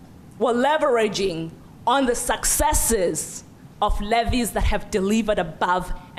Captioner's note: none